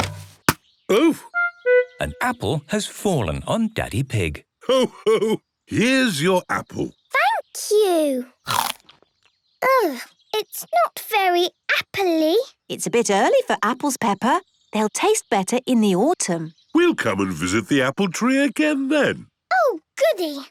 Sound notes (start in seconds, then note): 8.4 crunch!